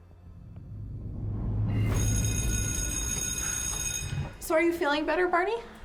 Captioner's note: dramatic music; bell ringing